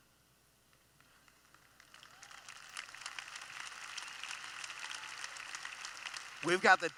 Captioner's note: applause